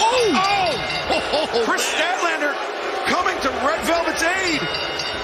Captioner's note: bell